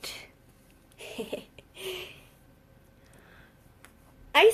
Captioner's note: laughs